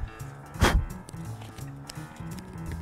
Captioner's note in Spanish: Soplido